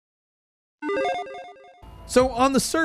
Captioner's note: logo beeps